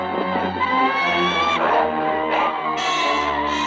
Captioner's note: bird squawking